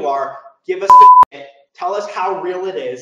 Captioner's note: beep sound